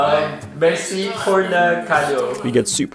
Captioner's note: speaking foreign language